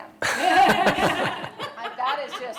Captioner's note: laughter